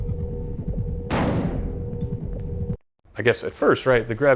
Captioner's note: barrel thuds on the ground